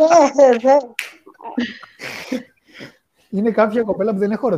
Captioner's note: γέλια